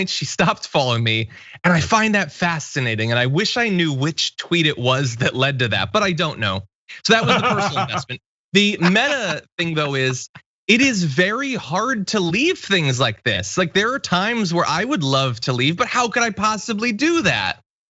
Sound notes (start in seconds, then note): 7.0 laugh